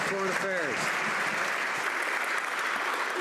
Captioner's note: some Applause